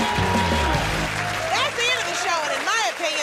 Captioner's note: cheers and applause